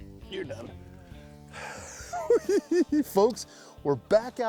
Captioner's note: laughs